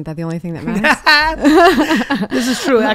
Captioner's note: laughing